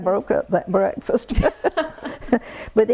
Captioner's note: laughter